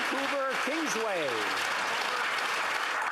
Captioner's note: applause